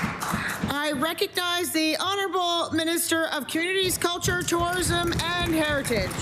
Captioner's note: applause